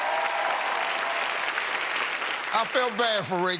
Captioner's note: cheers and applause